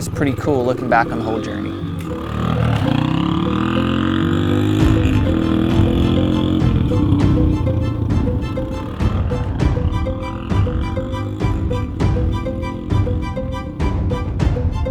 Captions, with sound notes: it's pretty cool looking back on the whole journey. (motor revving) (upbeat music)